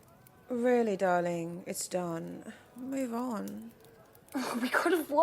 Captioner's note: Marlene makes an aggravated noise